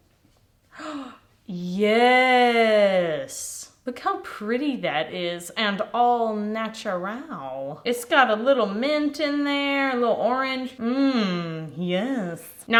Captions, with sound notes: (gasps) Yes. Look how pretty that is. And all natural. It's got a little mint in there. A little orange. Yes.